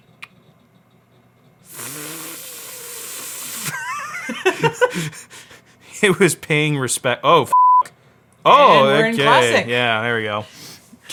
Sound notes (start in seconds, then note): 1.6 exhales raspily; 3.6 laughs; 7.5 beep